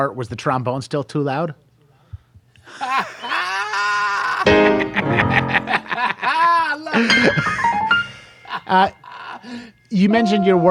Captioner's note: both laugh